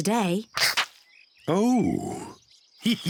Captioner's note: laughs